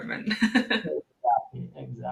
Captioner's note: laughing